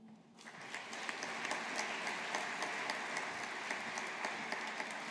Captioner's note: audience applauding